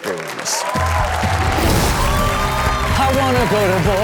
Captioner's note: audience cheers